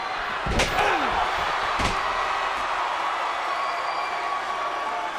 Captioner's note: crowd cheering